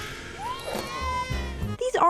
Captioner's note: Gesturing to Ben's crotch and squealing